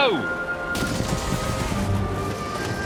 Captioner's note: crash